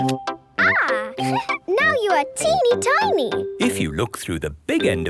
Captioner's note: giggling